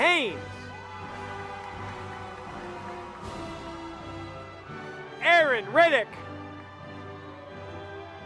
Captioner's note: applause